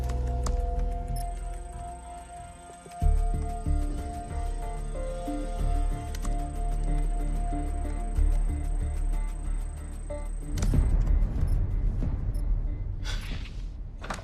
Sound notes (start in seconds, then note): 1.6 typing